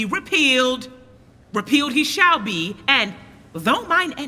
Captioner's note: none